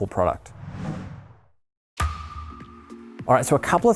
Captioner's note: logo whooshing